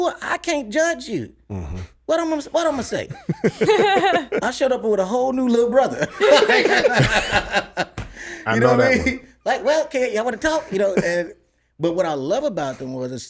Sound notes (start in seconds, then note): 2.5 laughs